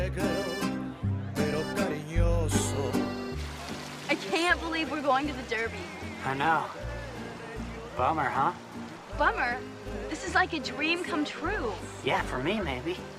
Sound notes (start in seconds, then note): none